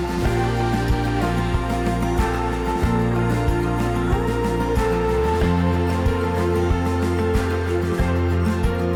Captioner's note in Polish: Aplauz